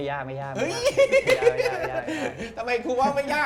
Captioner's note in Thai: เสียงหัวเราะ